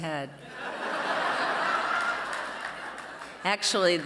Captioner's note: laughs